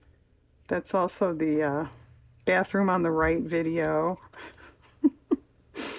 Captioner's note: laughs